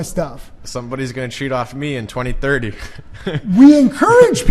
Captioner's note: chuckles